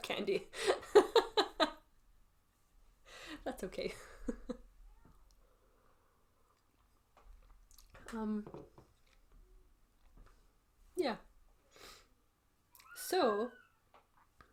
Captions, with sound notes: [laughs] That's okay. [chuckles] Um. Yeah. So.